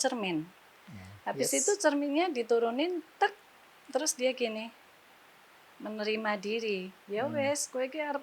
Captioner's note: in javanese